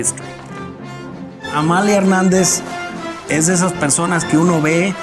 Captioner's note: in Spanish